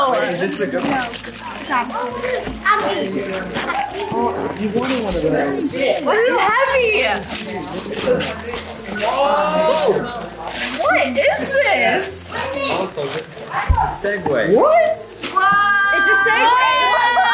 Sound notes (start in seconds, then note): 0.1 group chuckles and chatters; 11.2 gasps; 16.8 laughs